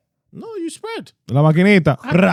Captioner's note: speaking In Foreign Language